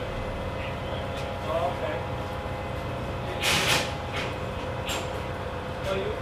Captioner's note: running diesel engine